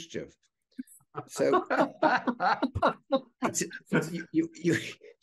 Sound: panelist laughing

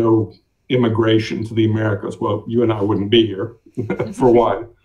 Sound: chuckles

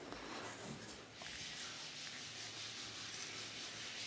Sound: grinding noises in the background

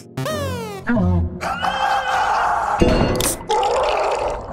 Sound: screaming and choking noise

